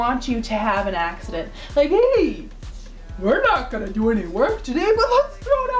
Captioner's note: funny voice